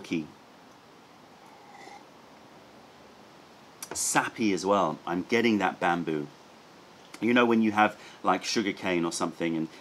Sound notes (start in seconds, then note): 1.3 sips tea